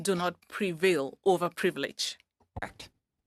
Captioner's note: speaking French